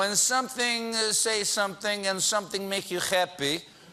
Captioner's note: russian accent